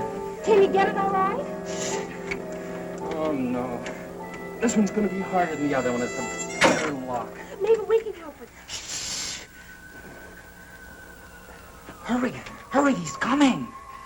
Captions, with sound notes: - Can you get it alright? - Oh no. This one's gonna be harder than the other one, it's a better lock. - Maybe we can help. (shushing) - Hurry, hurry, he's coming!